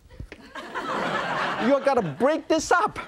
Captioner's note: audience laughs